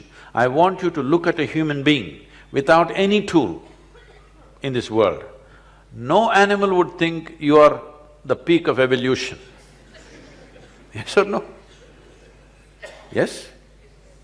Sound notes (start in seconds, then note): 9.6 laughter; 12.2 laughs